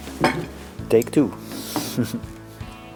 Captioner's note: lauch